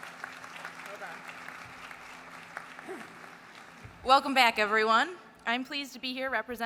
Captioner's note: applause